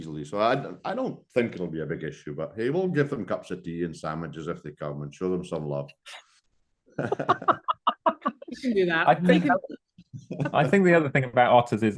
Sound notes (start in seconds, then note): 7.0 laugh